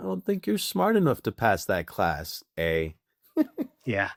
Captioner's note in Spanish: Riendo